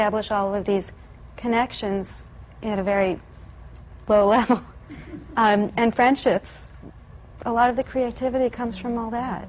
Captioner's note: she laughs